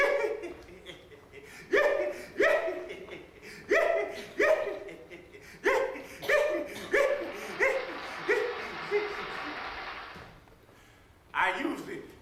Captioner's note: laughing